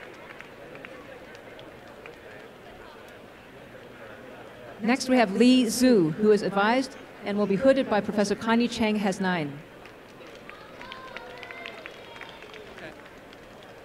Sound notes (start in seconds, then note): 9.7 applause